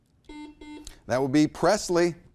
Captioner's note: buzzer beeping